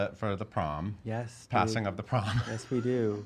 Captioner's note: laughing